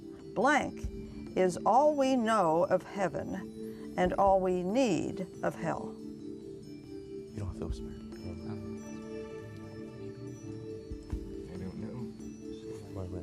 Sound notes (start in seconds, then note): 7.3 whispering; 9.3 ethereal music